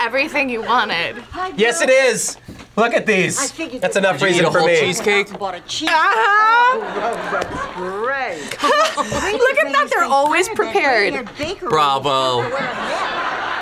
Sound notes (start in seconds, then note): 8.9 laughs